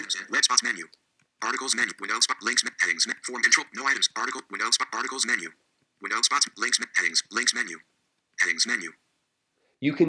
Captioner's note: screen Reader Reading